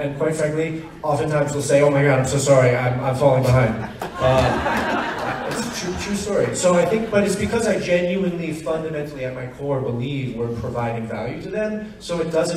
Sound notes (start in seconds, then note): 3.4 audience laughs